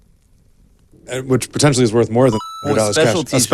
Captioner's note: game pings